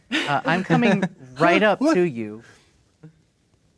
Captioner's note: players laughing